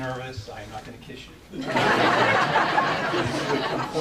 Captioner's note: audience laughing